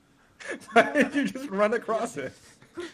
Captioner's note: laugh